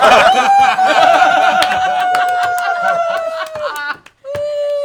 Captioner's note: laughter